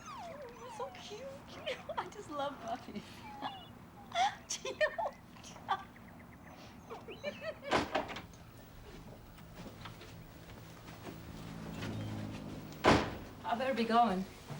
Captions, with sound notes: So cute. I just love puppies. [LAUGHING] I'd better be going.